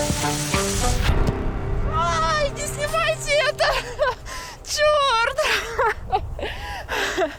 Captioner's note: laughter